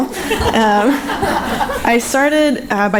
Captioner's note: audience laughing